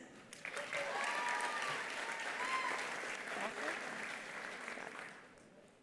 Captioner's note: attendees applauding; attendees cheering